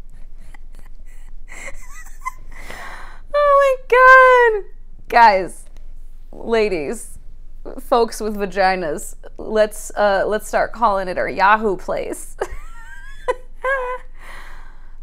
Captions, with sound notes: Oh my god! [more laughing] ...guys. Ladies. Folks with vaginas. Let's uh, let's start calling it our 'yahoo place'..